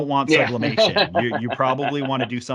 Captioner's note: laughs